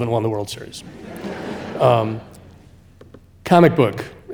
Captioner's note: audience laughing